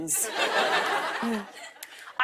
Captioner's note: laughter